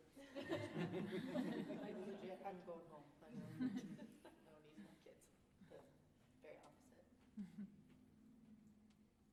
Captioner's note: laughter